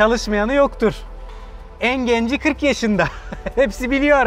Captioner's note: laughs